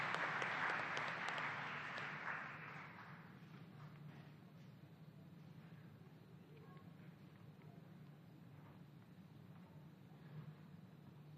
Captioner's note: applause